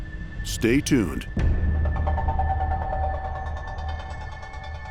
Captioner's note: dramatic sound